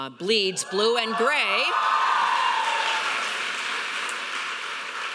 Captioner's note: audience cheering